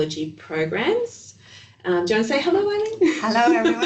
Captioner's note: laughing